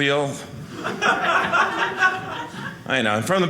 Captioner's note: audience laughing